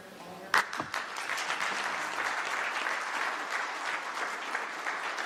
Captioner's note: applause